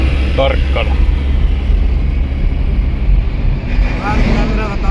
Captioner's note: traffic sounds